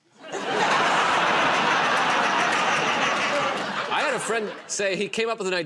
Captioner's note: laughter